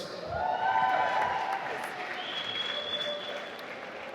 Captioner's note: applause